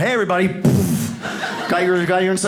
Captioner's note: mimics explosion